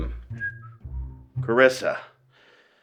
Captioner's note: CJ whistling